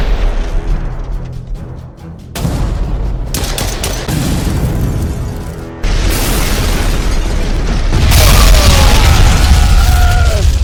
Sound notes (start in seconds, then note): 0.2 intense music; 2.4 explosion booms; 3.2 gun blasts; 4.1 explosion boom; 5.8 explosions booming; 8.3 men groaning